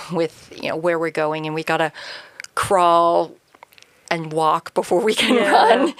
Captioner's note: chuckles